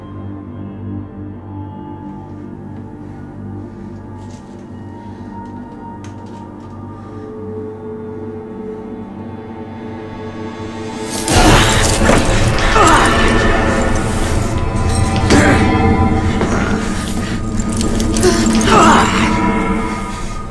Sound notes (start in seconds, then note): 11.0 dramatic music; 14.8 grunting; 17.6 chain rattling